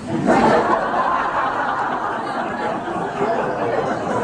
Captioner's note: audience laughs